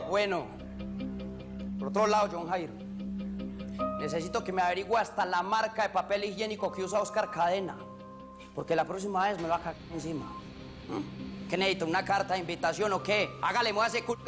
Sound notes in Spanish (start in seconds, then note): none